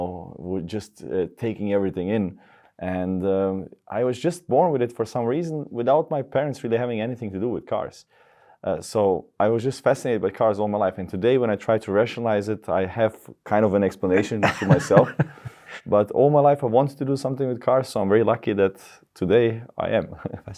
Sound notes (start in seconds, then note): 14.0 chuckles